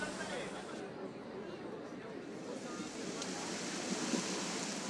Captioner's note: people chattering